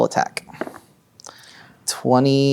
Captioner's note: dice rolling